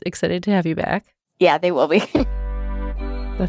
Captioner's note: chuckles; ominous music